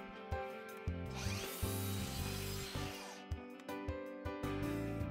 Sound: miter saw buzzes

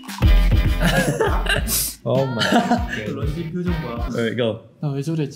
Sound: members laughing

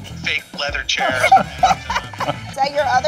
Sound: laughing

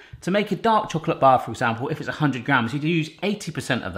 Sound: none

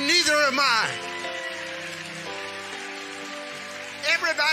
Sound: congregation cheering and clapping

